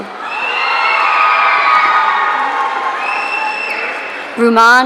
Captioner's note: audience cheering